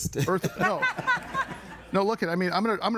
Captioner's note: audience laughing